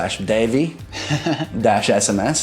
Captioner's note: laughing